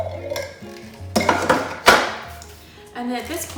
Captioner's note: hollow clattering into sink